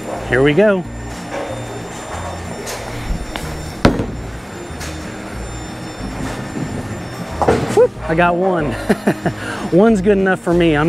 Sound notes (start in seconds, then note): 3.7 bowling ball thuds; 8.7 laughs